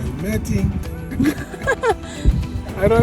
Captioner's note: everyone laughing amusingly